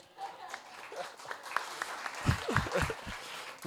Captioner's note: audience applauding